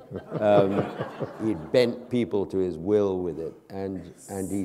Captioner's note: laughter